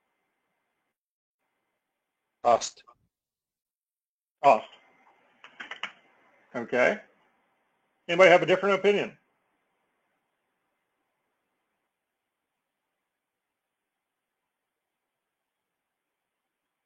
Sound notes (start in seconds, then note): none